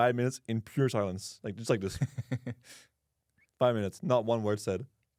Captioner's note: laughs